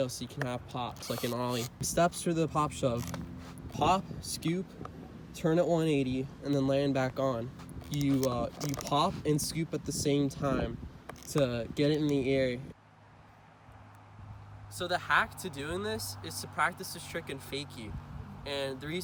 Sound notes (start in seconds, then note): 13.0 dead silence